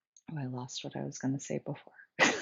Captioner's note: laughs